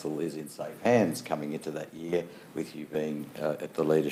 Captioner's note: none